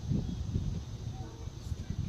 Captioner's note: 3rd Train Horn blow far away but a short one